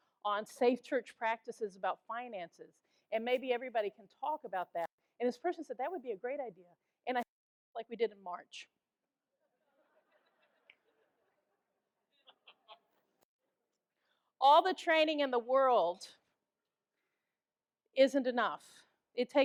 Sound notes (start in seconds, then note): 8.8 audience laughs